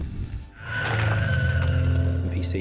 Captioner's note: growling